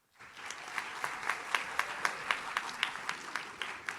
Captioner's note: audience claps